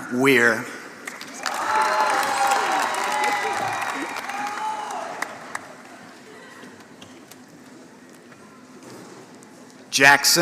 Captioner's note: applause